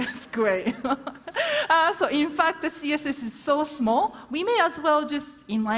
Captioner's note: laughs